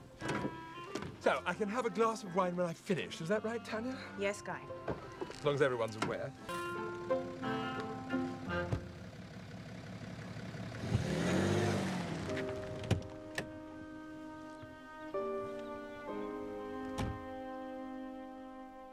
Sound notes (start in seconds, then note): 7.4 engine rumbling; 7.4 playful music; 11.8 gentle music; 13.5 birds chirping